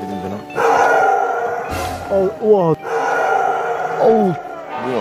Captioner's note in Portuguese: Rosnando